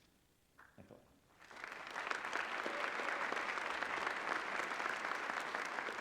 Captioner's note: applause